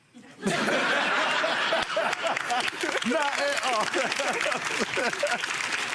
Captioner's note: audience laughing; audience clapping